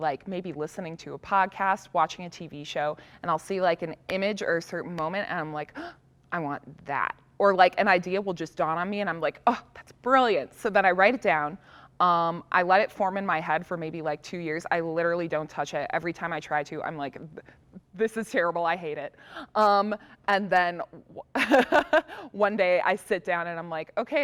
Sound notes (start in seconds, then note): 5.7 gasp; 21.4 laughs